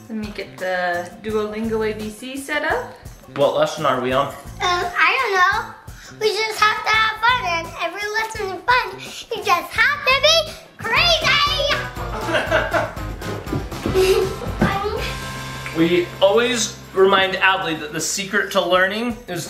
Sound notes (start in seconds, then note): 9.7 fast paced music; 12.0 laughing